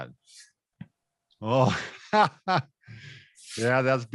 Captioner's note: laughs